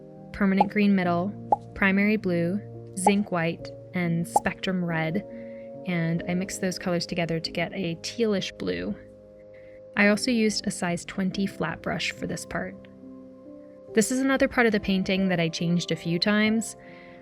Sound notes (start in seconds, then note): 3.0 pop sounds